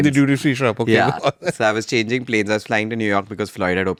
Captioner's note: laughs